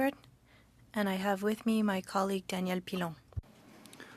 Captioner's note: speaking French